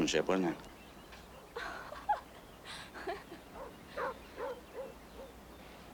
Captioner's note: mary giggles